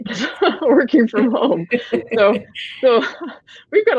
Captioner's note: laughing